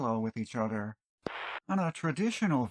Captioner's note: static